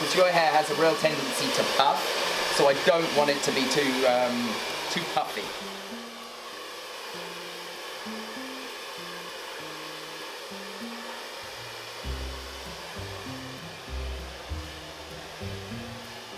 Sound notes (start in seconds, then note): 7.0 air whooshing; 7.0 soft music